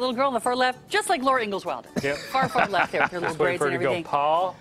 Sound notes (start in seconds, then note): 2.0 laughter